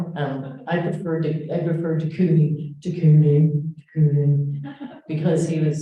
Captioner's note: echoing